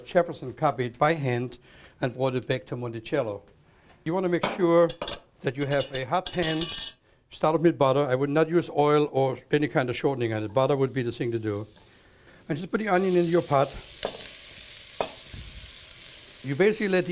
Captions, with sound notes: Jefferson copied by hand and brought it back to Monticello. You want to make sure that you have a hot pan. [clinking] Start it with butter, I would not use oil or any kind of shortening in it. [sizzling] Butter would be the thing to do. Just put the onion into your pot. You basically let